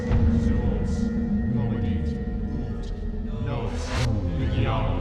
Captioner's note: chanting in foreign language